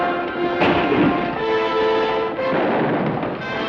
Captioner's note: gun fires